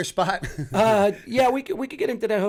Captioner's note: chuckle